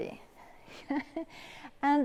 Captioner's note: laughs